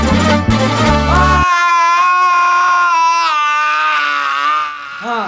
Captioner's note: yelling from pain